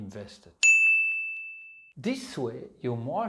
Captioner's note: pinging sound